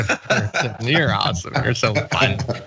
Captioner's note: laugh